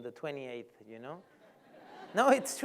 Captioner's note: laughter